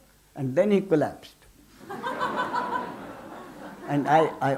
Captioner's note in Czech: smích